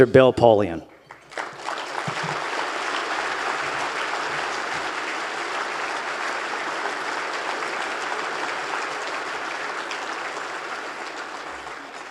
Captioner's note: applause